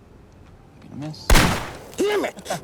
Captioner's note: gun cocking; gunshot